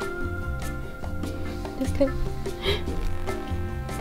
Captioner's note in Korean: 웃음